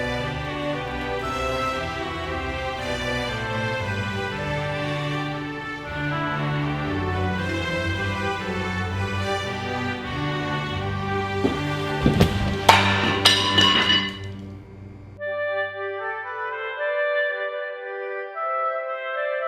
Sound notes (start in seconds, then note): 12.0 plate clattering; 16.1 chill music